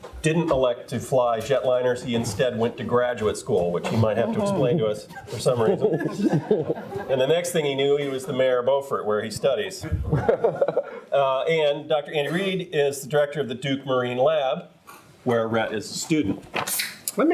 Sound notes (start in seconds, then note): 5.1 all laugh; 9.8 laughs